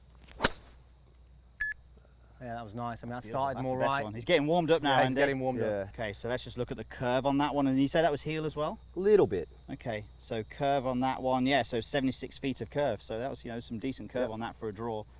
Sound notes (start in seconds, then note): 0.3 crisp golf drive; 1.6 beep